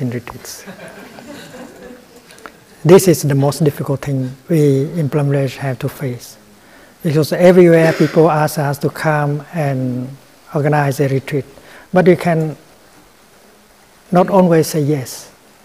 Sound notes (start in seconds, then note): 0.6 laughter